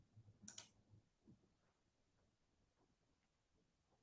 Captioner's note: mouse clicking